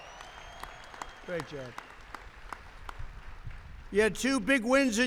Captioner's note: applause